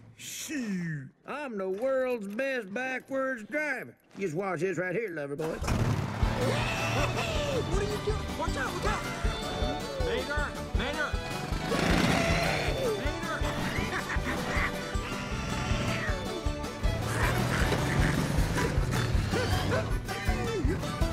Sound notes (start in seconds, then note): 5.5 revs engine; 13.9 laughing